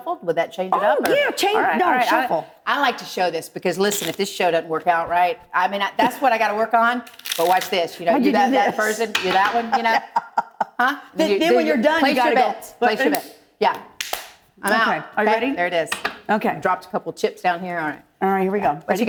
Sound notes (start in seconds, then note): 12.5 laughing; 13.7 clap snap